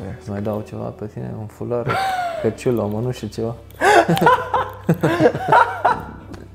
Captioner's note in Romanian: Râsete